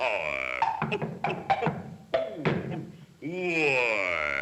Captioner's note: Sinbad grunting; telescope pieces thudding